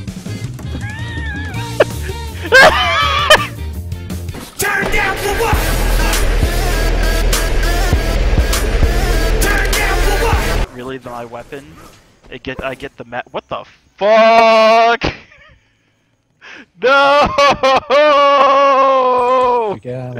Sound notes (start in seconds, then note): 0.6 chuckles; 2.5 cackles